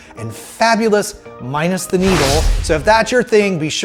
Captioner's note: logo whooshing